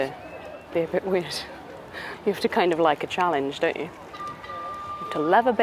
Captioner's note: boat toots in background